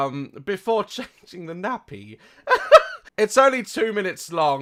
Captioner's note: laughs